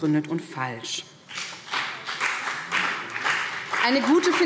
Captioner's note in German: Beifall BÜNDNIS 90/DIE GRÜNEN und CDU